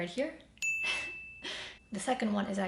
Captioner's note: dinging